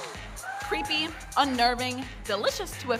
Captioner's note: audience cheers